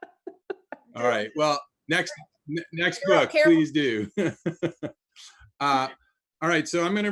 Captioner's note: laughs; laughs